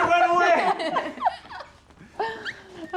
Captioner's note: laughter